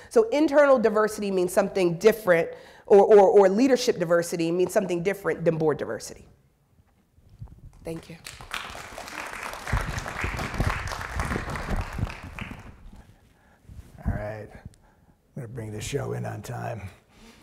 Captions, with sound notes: So internal diversity means something different or leadership diversity means something different than board diversity. Thank you. (audience clapping) All right, I'm gonna bring this show in on time.